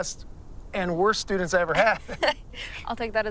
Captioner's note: both chuckle